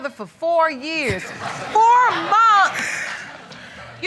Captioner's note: all laughing